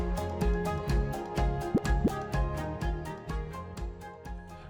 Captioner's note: graphic pops